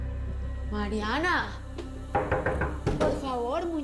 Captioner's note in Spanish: Toques en la puerta